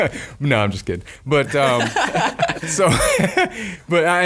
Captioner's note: laughing